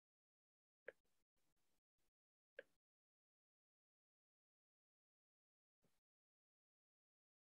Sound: silence

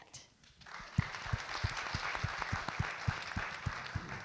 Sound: audience clap

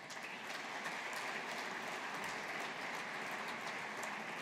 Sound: audience applauding

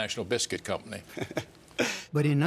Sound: laughter

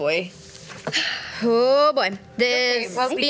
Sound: sigh

